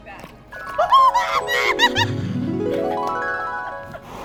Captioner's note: laughs